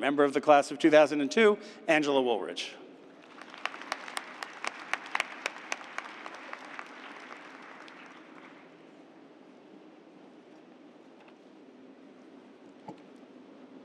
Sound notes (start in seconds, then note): 3.2 applause